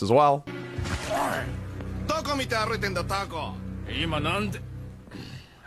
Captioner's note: speaking in foreign language